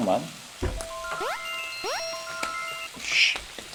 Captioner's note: sizzle